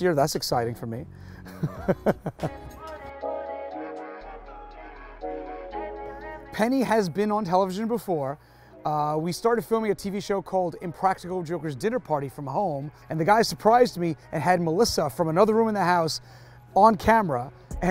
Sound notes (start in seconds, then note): 1.4 laughing; 3.2 upbeat music